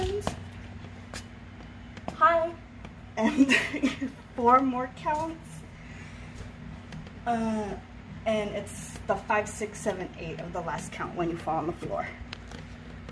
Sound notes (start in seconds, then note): 3.2 laughing